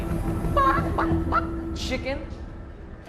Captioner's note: mimics chicken